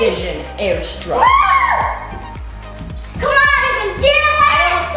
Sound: child whoops

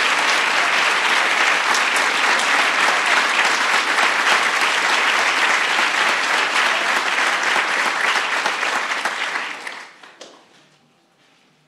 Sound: applause

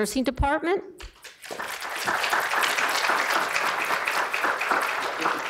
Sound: audience applause

